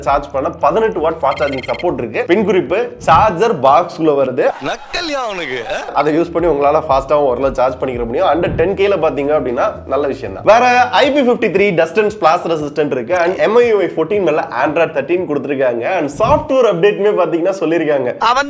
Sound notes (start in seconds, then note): 5.2 Tamil film dialogue